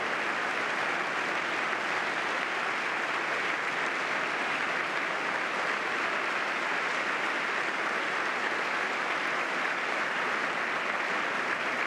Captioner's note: applause